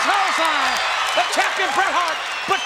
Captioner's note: audience cheers